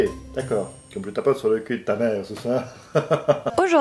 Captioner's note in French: rire